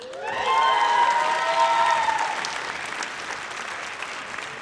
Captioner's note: audience cheers